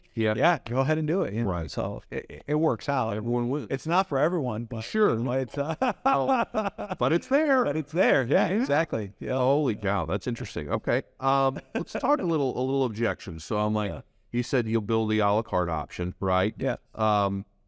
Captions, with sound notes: "Yeah, go ahead and do it," You know? So it works out. It's not for everyone, but- (laughs) - But it's there. - But it's there. Yeah exactly. - Holy cow. That's interesting. Okay, let's talk a little, a little objection. So I'm like, you said you'll build the a-la-carte option, right?